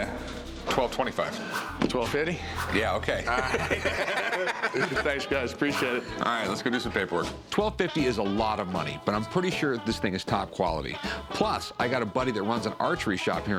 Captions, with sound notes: 1,225. 1,250? Yeah, OK. [laughter] Thanks, guys. Appreciate it. All right, let's go do some paperwork. 1,250 is a lot of money, but I'm pretty sure this thing is top quality. Plus, I got a buddy that runs an archery shop here in town,